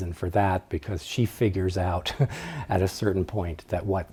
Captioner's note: laughs